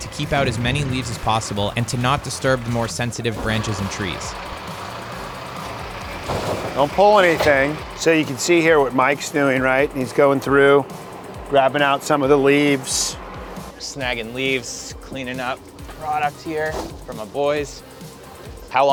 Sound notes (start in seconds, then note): 4.2 tractor engines roaring; 5.4 grapes falling